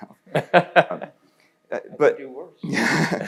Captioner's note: laughing